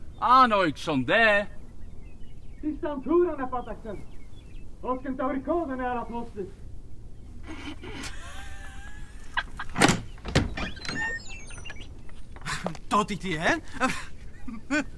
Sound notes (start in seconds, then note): 3.6 rural Doric accent